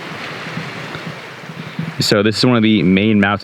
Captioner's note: water flowing